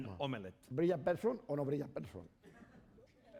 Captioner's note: speaking spanish